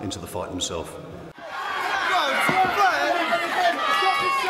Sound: crowd cheering

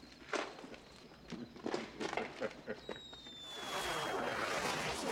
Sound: laughing

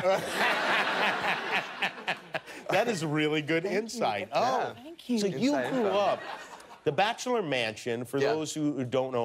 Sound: laughter

